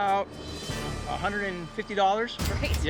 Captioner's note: cash register dings